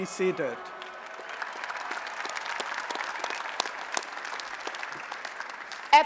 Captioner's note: applause and Cheering